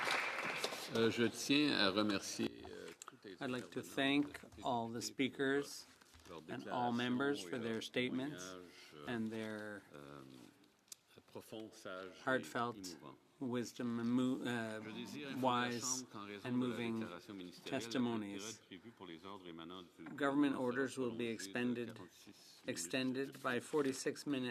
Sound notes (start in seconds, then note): 0.0 applause; 5.6 speaking French